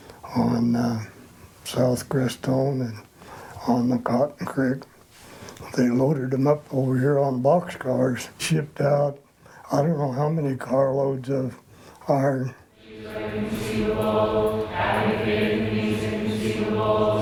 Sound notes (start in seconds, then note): 12.7 chanting